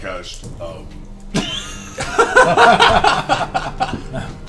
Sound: all laugh

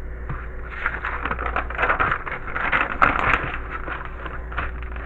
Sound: keeps on flipping pages

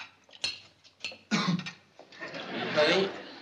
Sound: coughing

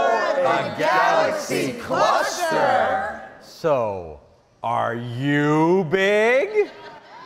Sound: some exclaiming

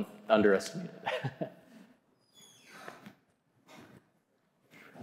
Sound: chuckling

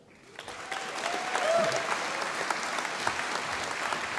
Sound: audience applauding

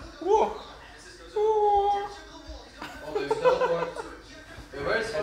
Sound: makes kung fu noises, laughs

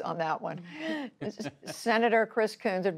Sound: laughter

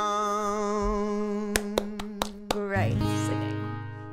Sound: applauding

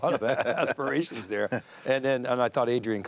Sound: laughs

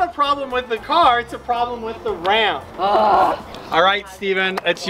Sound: moans

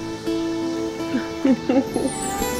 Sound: Mary chuckling; magical twinkling music

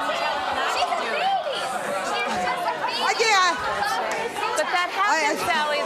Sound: audience exclaim in protest

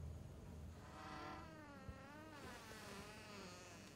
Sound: door creaks

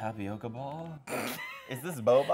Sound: laughing

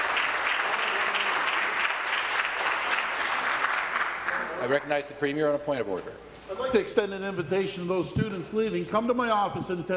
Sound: applause

